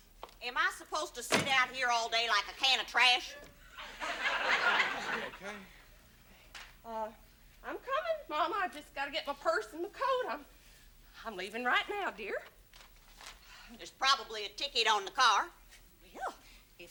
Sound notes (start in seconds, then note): 3.8 audience laughs